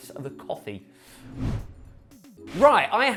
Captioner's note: screen wipe whooshes